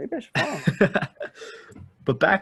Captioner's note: laughs